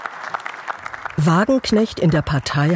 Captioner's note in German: Applaus